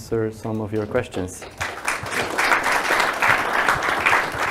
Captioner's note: crowd applauds